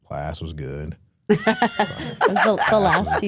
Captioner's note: Stephanie laughing